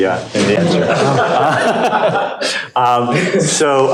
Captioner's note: laughter